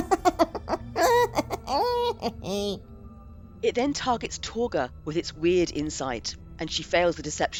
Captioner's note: laughter